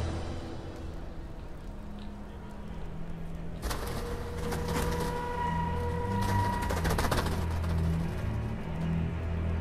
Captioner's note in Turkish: Hışırtı ve Kanat Sesleri